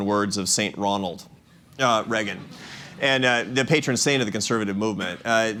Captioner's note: laughter